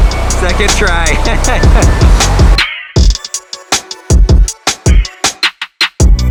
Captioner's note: laughs